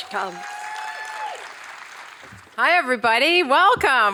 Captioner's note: audience applauding